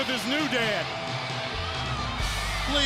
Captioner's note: crowd cheering